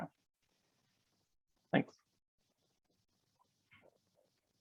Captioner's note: pause